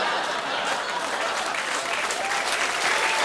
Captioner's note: laughter; cheers and applause